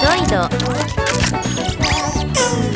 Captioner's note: mechanical SFX